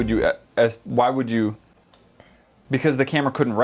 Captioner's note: comical stuttering